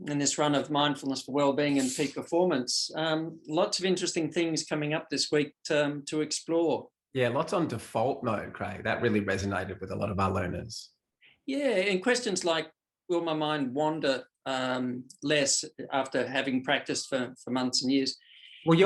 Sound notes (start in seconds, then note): none